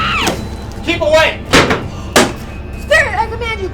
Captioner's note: chair banging